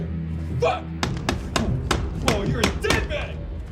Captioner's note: hammer thudding